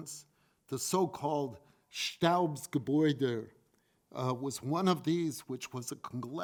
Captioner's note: foreign language